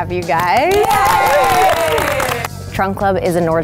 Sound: everyone cheering

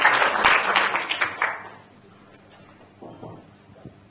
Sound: applause

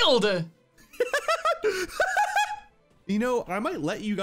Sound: laughing

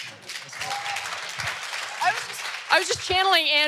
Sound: audience applause

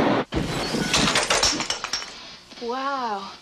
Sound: explosion; shattering

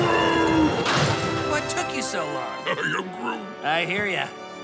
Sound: crashes

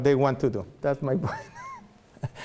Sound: laughs

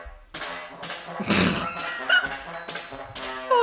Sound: laughs

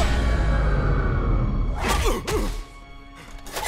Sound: grunting

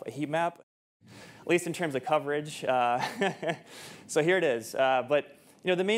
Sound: chuckles

